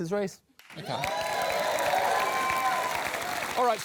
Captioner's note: applause